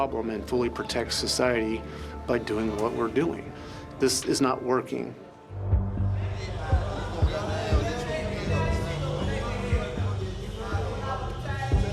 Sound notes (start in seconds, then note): 5.7 indistinct conversations; 7.2 tense melody plays